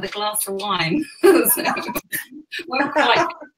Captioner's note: both laughing